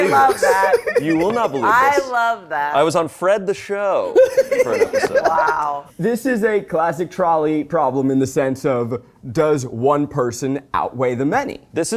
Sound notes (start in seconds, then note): 4.1 laughs